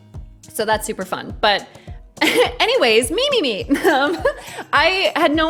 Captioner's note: chuckles